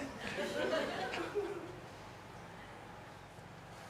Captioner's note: audience laughs